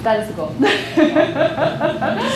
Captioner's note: laughter